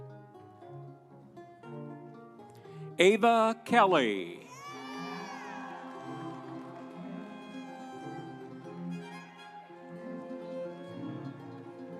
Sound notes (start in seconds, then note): 3.7 audience cheering; 8.7 instrumental music